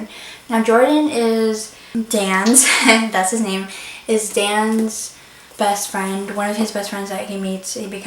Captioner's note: laughs